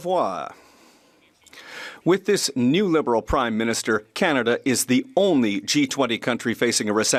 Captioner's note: speaking French